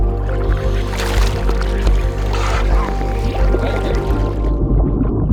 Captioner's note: tense synth music continues; water splashes; oxygen mask humming; water bubbling